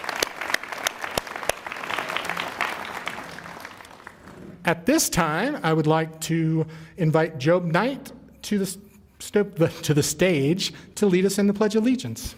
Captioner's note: applause